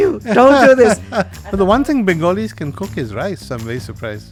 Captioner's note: laughs